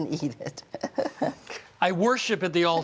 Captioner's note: chuckles